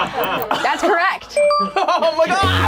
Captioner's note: group laughs; bell chimes